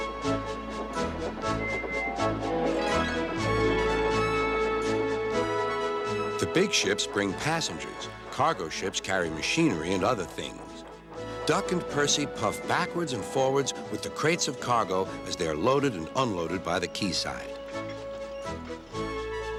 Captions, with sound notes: [toot toot] the big ships bring passengers. Cargo ships carry machinery and other things. Duck and Percy puffed backwards and forwards with the crates of cargo as they're loaded and unloaded by the keyside.